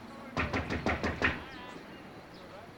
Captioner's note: knocks, then pounds on door